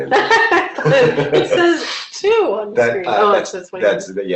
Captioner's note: laughs